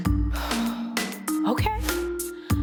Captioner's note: exhales deeply